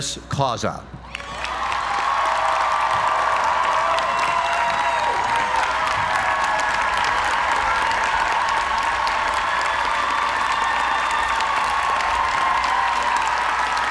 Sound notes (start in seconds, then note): 1.0 applause